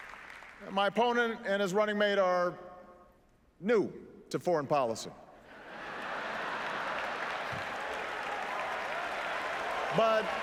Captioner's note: laughter